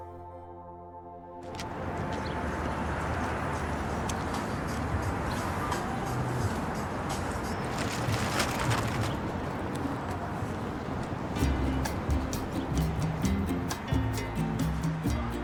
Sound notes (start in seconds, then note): 5.4 traffic roars; 11.3 relaxed guitar music